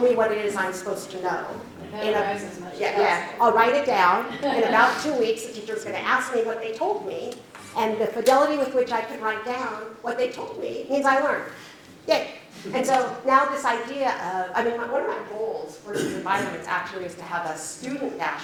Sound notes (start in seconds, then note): 12.5 chuckles